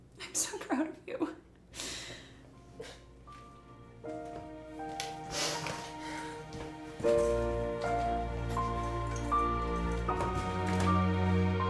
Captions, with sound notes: - I'm so proud of you. (both crying) (sad music playing)